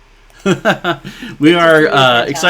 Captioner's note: chuckling